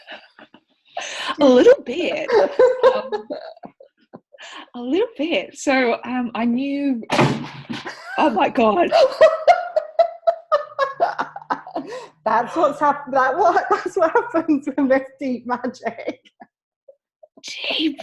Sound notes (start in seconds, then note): 0.1 laughing; 7.1 huge thud; 8.8 laughter